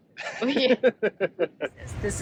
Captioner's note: laughs